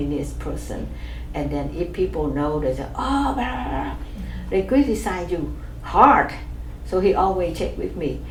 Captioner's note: exclaims